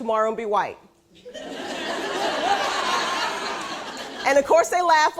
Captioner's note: laughing